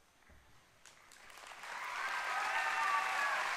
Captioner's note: applause